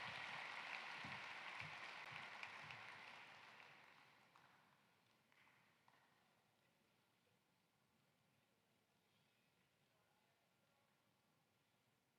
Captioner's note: applause